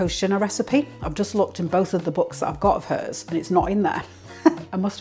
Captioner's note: laugh